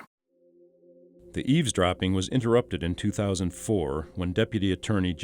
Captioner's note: voiceover